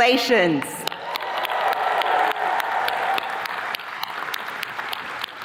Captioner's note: attendees clapping